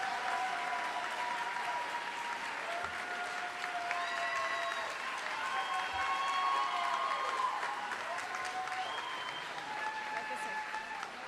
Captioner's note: cheering and applause